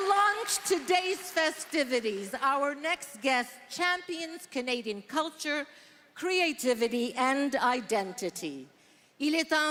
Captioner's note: applause